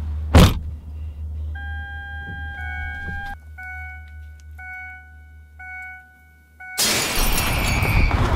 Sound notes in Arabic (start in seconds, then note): 1.5 رنين إنذار السيارة; 6.8 تحطيم الزجاج; 7.6 صراخ